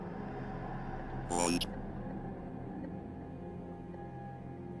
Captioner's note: Ovilus buzzing